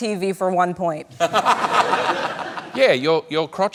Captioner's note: laughter